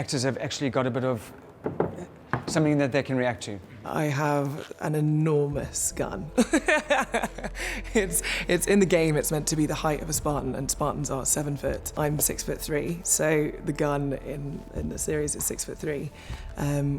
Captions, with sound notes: have actually got a bit of something that they can react to. I have an enormous gun. [laughs] It's in the game. It's meant to be the height of a Spartan, and Spartans are seven foot. I'm six foot three. So the gun in the series is six foot three,